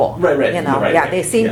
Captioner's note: laughs